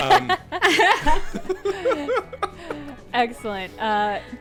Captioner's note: everyone laughing